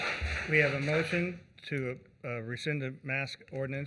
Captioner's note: applause